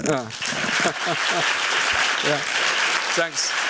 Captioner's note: applause